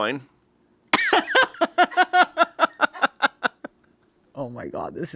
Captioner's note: laughing